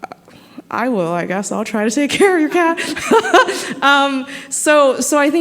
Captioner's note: laughing